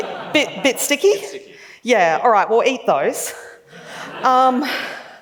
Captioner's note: laughs; laughs